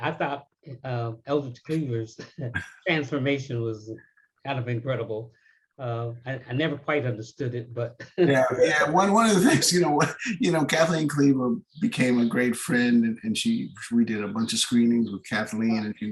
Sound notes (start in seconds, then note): 8.3 laughs